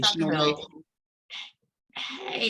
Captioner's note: interference feedback